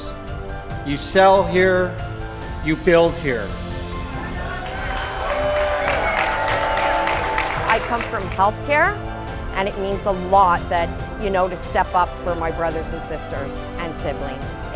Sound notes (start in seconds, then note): 4.0 applause